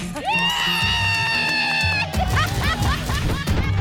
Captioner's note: cheers